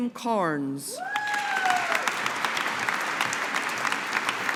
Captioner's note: audience applauding